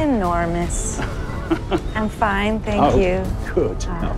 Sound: chuckles

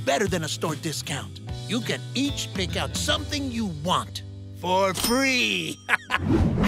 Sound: chuckles

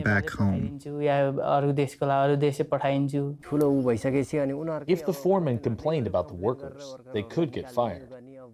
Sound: through translator

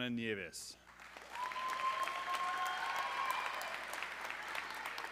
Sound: audience cheering

